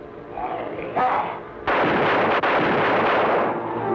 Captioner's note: foreboding music; gun firing; suspenseful music